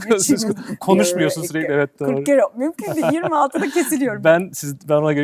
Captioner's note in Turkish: kahkaha